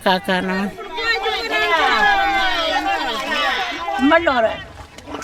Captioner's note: cheering